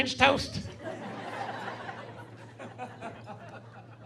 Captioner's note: laughing